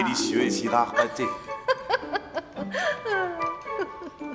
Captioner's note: woman giggles